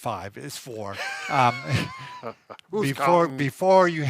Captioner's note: laughing